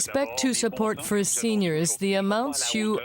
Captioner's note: speaking french